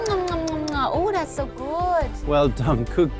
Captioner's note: lips smooching